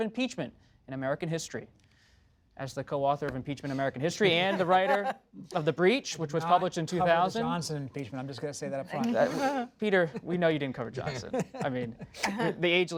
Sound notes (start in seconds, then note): 4.2 laughter; 11.1 laughter